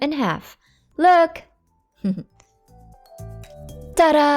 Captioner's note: chuckles